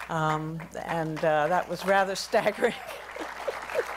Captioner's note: laughs; applause